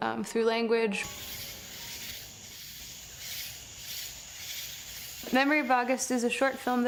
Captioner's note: crickets